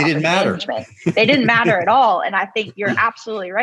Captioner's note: laughs